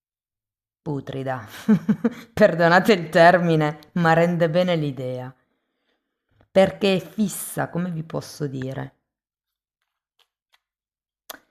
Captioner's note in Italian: risate